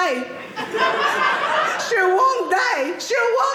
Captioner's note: audience laughing